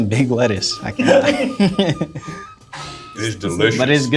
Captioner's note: laughter